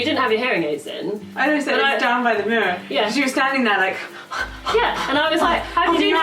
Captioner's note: panting